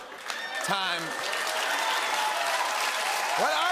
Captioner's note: cheers and applause